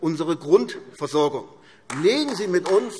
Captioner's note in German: Beifall AfD